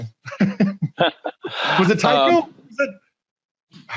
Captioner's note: laughing